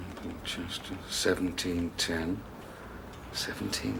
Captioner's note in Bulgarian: мърморейки